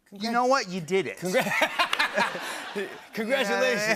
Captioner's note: laughter